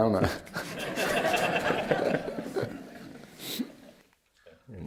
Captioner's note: laughter